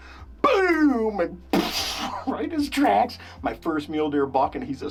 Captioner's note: imitating explosion